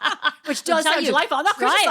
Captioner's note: laughing